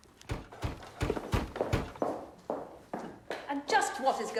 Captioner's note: knocking on door